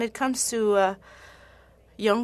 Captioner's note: speaking French